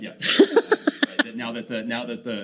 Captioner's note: laughing